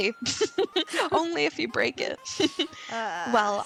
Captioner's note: laughing